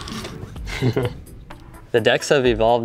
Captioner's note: chuckling